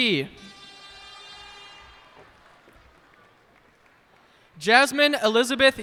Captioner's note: cheers and applause